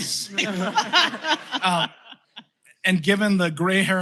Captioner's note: laughter